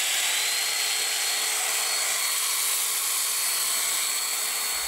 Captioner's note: machine whirs